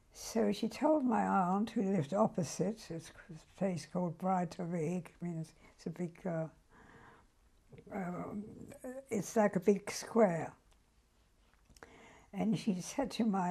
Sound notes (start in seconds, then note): 4.5 german; 6.2 pauses for 3 seconds